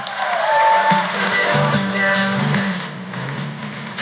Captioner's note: applause